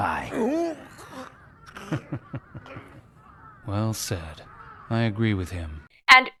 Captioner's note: chuckles